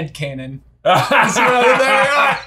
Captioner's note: laughter